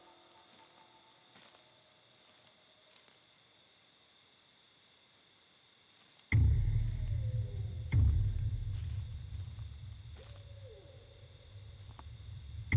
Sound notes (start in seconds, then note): 6.3 tense music; 6.9 distant animal whimpering